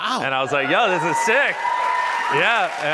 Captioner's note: cheers and applause